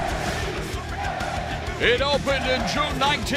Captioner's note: crowd cheering